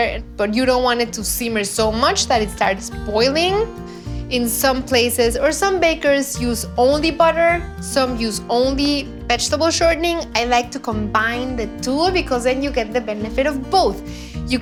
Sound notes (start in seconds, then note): none